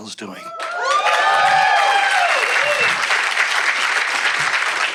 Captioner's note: audience clapping